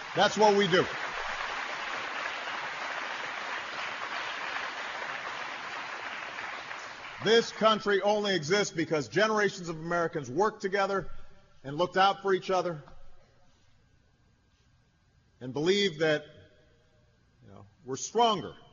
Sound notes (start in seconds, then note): 6.0 applause